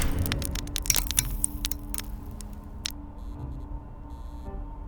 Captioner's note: light bulb crackles